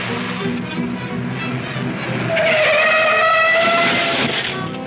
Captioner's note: tires screeching